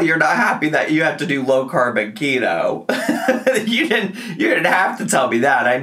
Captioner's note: laughs